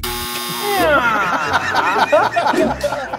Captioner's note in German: Lachen